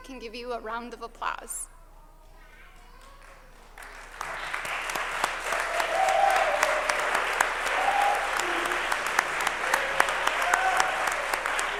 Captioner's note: applause